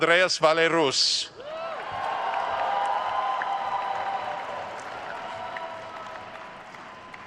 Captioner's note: attendees cheering and applauding